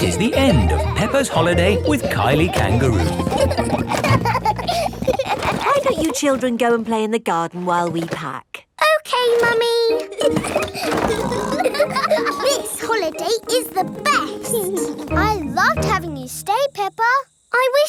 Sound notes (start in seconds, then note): 4.0 children laughing; 10.0 laughing and snorting